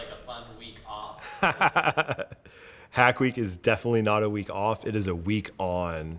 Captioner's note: laughs